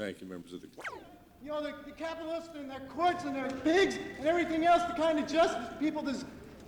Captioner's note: camera start up noise